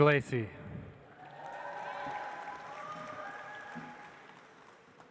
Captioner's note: audience applauds